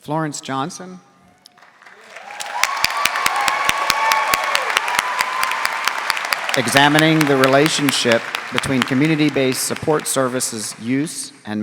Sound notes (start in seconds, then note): 2.6 audience cheering